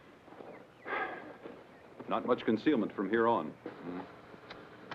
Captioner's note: sighs